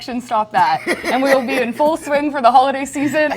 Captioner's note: laughing